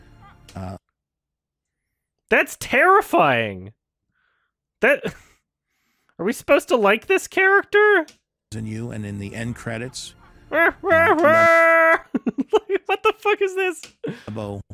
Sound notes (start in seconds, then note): 10.4 mocks the laughter, eventually actually laughing himself; 10.5 laughing